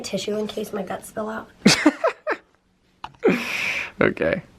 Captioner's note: laughing